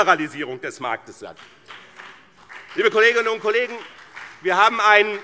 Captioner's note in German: Beifall BÜNDNIS 90/DIE GRÜNEN und vereinzelt CDU